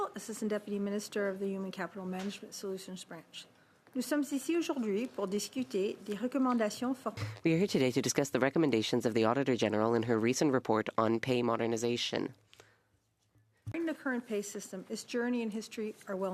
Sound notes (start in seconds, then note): 9.1 speaking French